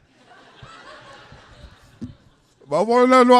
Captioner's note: laughter